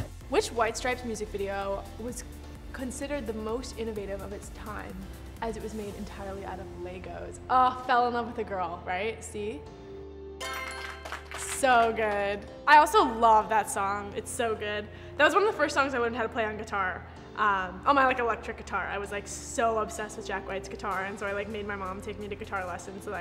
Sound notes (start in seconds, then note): 10.4 applauding